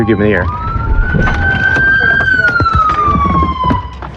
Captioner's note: sirens wail